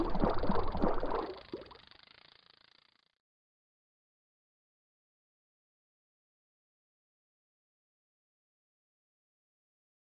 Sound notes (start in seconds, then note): none